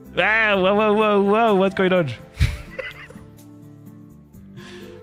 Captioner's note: laughter